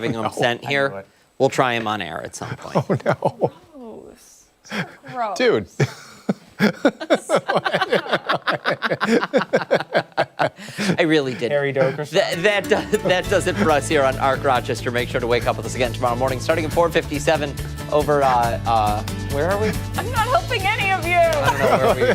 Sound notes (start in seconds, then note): 10.1 laughter